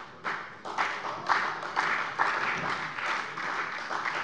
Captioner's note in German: Beifall bei Abgeordneten der SPD